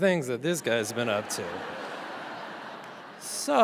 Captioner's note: audience laughs